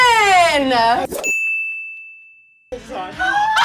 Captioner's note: ding